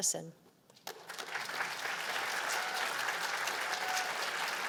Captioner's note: applause